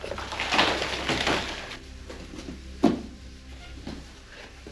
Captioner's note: rock clattering